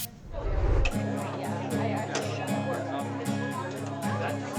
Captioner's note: upbeat music; people chattering